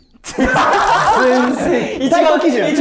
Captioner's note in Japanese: 一同：爆笑